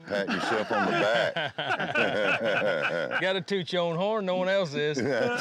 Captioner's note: laughter